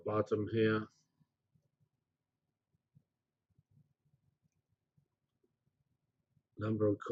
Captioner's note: pause